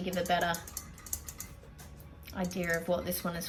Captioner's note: metallic tapping with fingernails